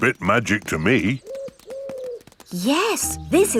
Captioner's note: owl hooting